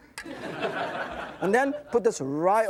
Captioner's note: audience laughs